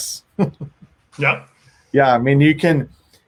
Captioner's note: laughs